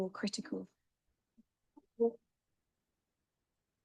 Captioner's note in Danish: silence